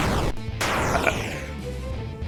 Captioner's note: Fredbear Explodes